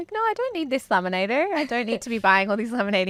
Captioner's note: laughing